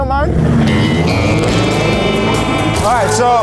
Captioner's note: car engine revving